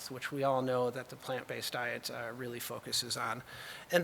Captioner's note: none